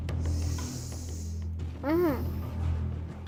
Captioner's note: breaths heavily